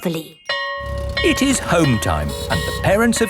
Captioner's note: school bell ringing